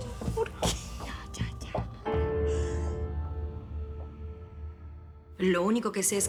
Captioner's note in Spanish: Sollozos